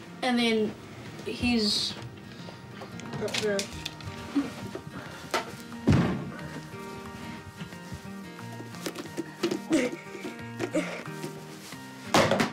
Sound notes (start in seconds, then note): 5.8 thud!; 7.6 cheerful music; 9.6 chuckles